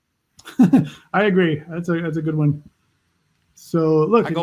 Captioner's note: laughs